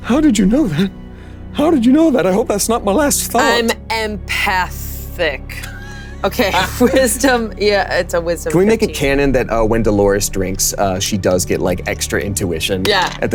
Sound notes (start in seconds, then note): 5.6 Delores and Damien chuckling